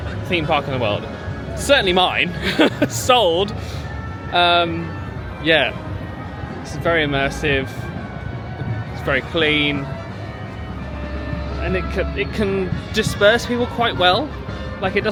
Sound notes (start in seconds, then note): 2.3 laughs